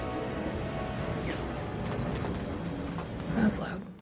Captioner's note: airplane noise